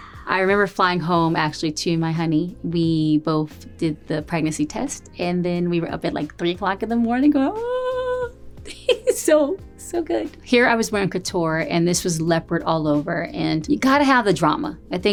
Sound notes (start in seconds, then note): 8.6 giggles